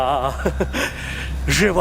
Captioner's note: chuckles